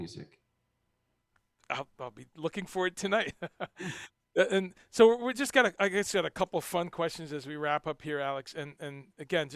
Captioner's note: laughs